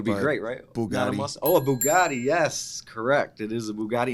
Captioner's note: bell rings